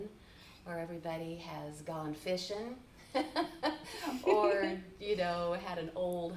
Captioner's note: chuckles